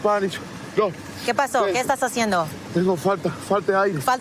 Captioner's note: speaking spanish